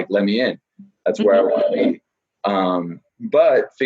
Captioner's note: laughing